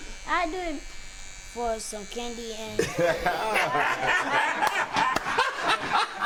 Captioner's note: all laughing